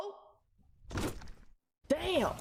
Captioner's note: squelchily thuds against the wall